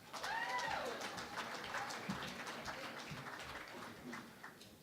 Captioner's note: cheering and Applause